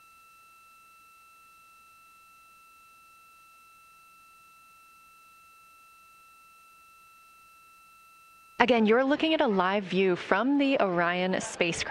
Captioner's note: silence